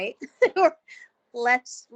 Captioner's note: chuckling